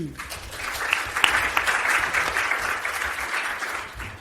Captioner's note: audience applauds